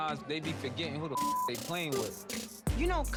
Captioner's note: beep